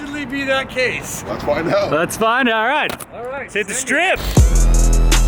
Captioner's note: jubilant cheering